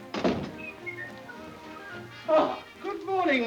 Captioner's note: gentle music; door thuds; Ollie whistles